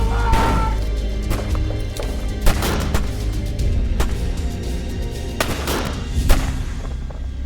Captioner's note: dramatic orchestral music; guns firing